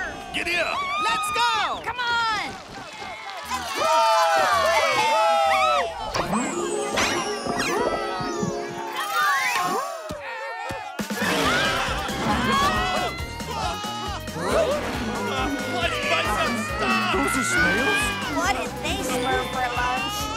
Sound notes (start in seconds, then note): 3.7 cheering